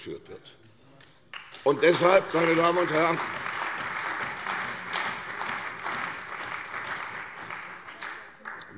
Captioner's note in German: Beifall bei der CDU und dem BÜNDNIS 90/DIE GRÜNEN